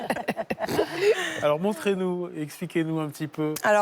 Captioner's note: laughter